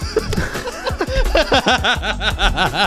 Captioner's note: laughing